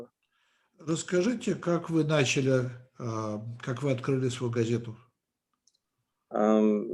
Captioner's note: translator speaking Russian language; speaking Russian language